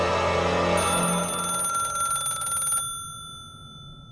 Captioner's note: tense music continues; phone ringing